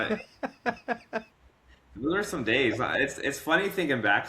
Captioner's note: laughing